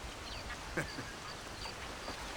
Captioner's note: laugh